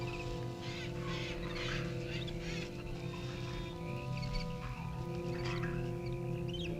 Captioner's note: animals chittering; tense orchestral music